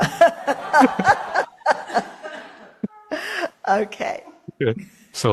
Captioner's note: crowd laughter